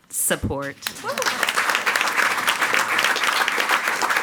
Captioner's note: all applauding